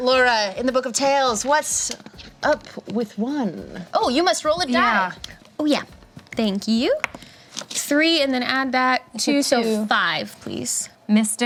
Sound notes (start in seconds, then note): none